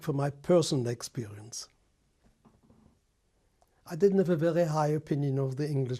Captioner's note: pauses for 3 seconds